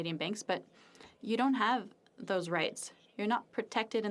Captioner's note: speaking French